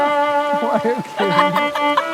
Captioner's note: laughs